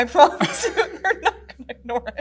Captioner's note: laughs